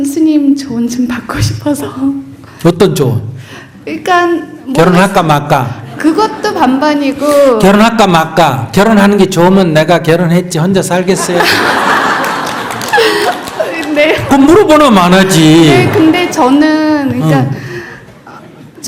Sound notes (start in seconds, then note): 5.6 audience Laughter; 11.1 questioner Laughter